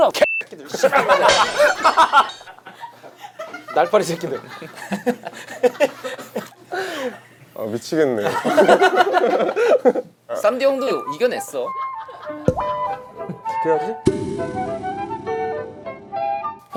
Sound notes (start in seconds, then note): 2.8 being funny, Crying; 4.3 laughing; 8.4 laughing